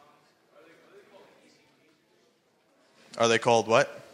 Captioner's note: speaking faintly